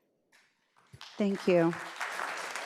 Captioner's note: audience applauds